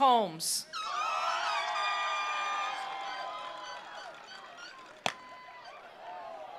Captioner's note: attendees cheering; attendees applauding